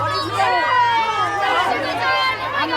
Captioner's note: kids cheering